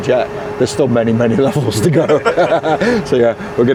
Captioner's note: laughs